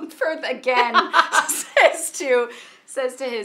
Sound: Tracey and Mindy laughing

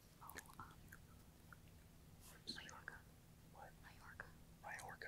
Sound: students whispering

